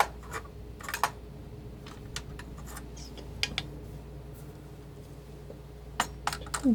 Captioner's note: scratching